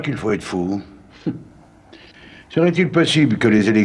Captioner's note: laughter